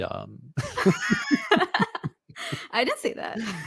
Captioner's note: laughter